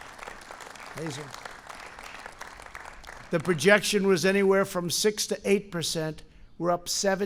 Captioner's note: applause